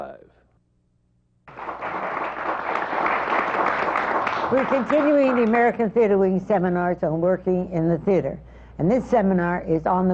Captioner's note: applause